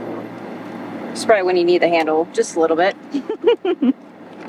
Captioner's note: laugh